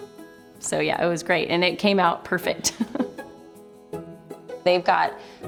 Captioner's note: chuckles